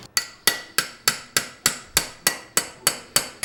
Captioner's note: tapping sound